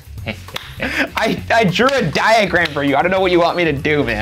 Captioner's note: laughing